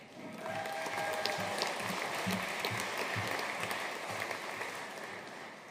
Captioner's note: audience cheering and applauding